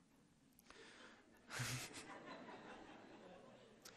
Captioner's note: laughter